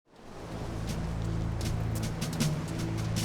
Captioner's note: beach waves crashing